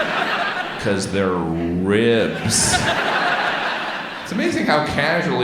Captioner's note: audience laughs